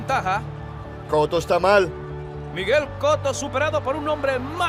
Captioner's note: stammers